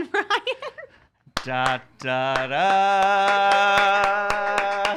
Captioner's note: laughs; clapping; laughs